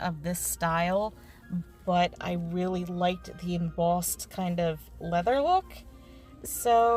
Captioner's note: none